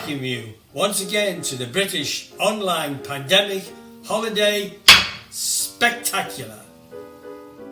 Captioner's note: gavel bangs